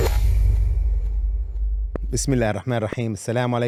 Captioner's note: speaking in foreign language